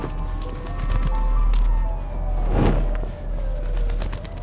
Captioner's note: heart beating